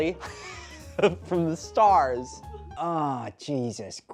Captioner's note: laughing